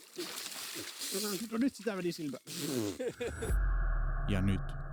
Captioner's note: laughs